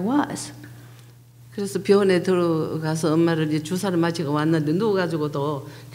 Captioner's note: speaking foreign language